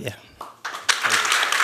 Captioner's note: applause